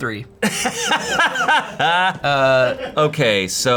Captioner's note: everyone laughs